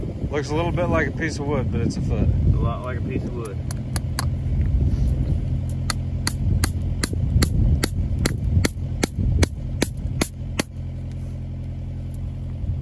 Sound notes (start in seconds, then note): 4.7 hammer banging the metal